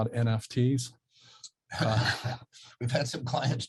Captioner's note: laughs